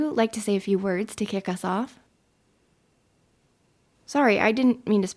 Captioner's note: silence